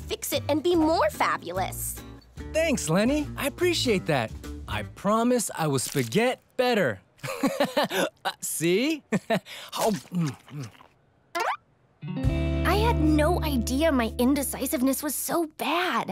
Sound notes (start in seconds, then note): 7.2 laughing; 8.8 chuckles